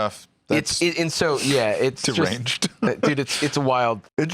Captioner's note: laughs